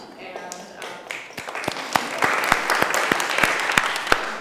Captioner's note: applause